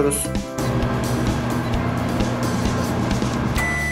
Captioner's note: 🔥 Oven Sound 🔥